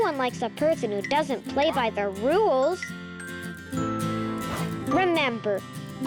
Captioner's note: planet clinking